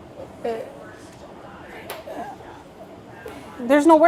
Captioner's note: stutters